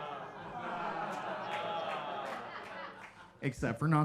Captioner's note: audience laughing